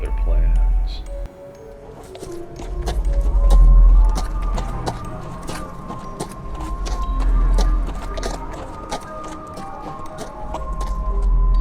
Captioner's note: clanking horses walking; howling wind